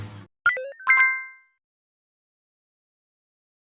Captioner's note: computer chimes